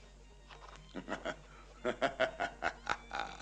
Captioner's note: laughing